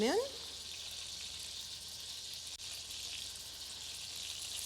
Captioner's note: food sizzling